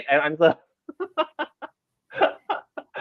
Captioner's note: laughs